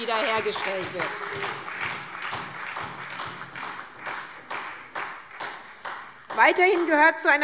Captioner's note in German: Beifall SPD